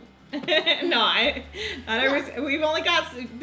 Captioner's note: laughs